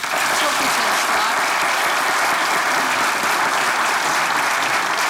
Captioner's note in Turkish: Alkış sesleri